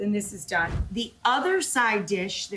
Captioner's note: air whooshes